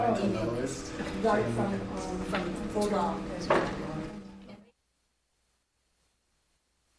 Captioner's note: senators chattering quietly